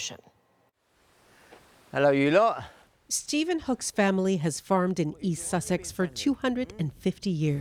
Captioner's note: speaking alternate language